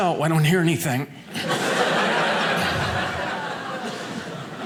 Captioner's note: audience laughing